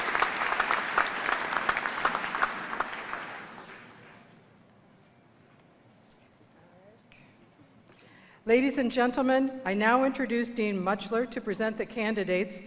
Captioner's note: applause